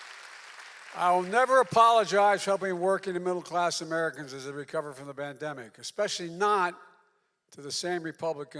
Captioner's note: applause